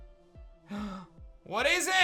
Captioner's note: gasps